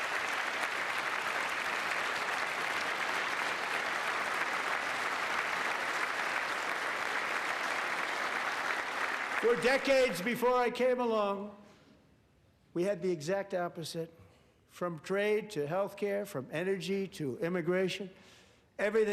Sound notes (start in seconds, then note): 2.9 applause